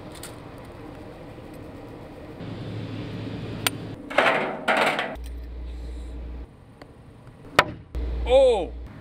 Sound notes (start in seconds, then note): 3.5 ball pings; 4.0 metal clangs